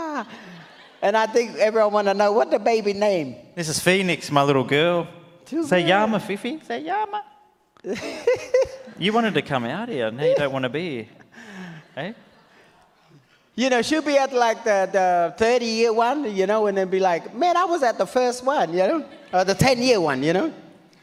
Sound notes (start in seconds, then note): 7.8 laughs